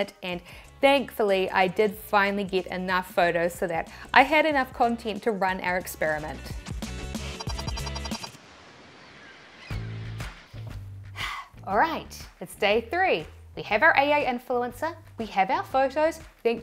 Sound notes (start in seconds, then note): 6.4 upbeat music; 7.1 digital tones beeping; 9.8 lively music; 11.1 sighs